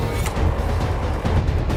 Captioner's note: fan motor